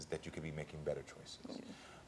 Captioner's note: none